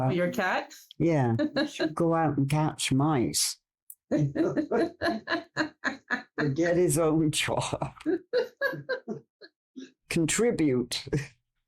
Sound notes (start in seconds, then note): 1.4 haha; 4.1 both laugh